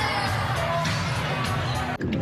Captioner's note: cheers and applause